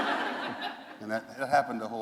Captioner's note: laughter